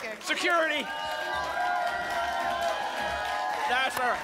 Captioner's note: applause and cheering cont